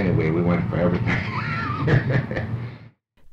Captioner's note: laughs